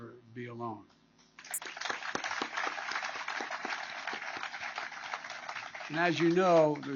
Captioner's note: applause